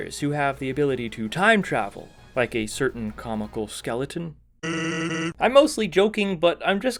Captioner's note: Sans laughs